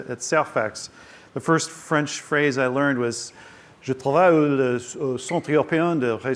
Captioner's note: speaking french